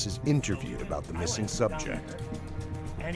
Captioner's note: voiceover